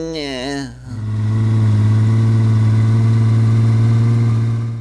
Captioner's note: engine sound